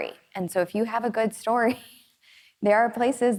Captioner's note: chuckles